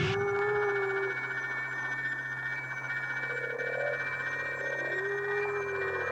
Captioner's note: dinosaur roaring; crystal warbling